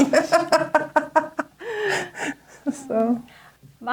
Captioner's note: laughs